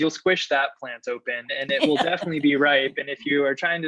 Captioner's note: laughter